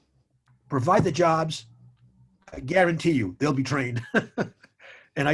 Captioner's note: chuckles